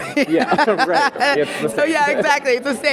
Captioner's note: Aisha laughs